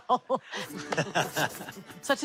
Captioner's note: both laugh